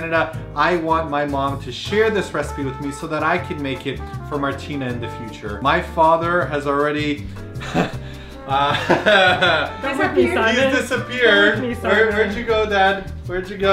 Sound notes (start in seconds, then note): 8.5 soft laughter